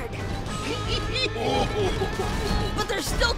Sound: chuckling

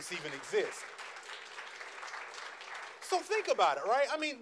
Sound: audience applauds

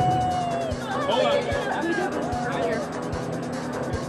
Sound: cheering

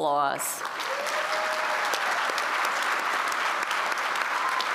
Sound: applause

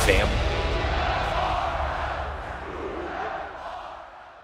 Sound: audience chanting

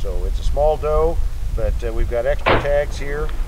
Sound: arrow launch

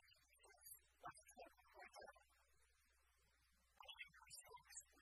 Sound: speaking in foreign language

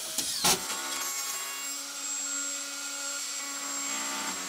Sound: router whirring

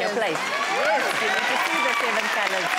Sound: fans cheering

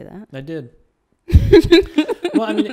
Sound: laughs

